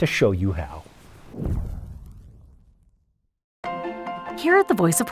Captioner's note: air whooshes